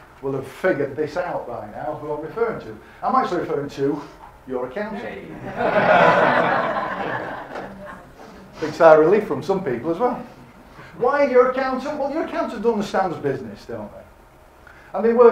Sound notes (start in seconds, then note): 5.3 audience laughing